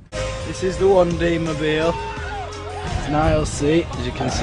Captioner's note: screaming